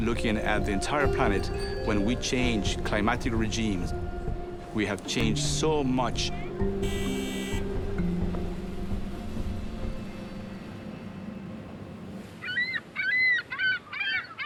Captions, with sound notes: at the entire planet when we change climate regimes. We have changed so much. (horn beeping) (bird squawking)